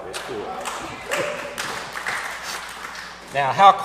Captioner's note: applause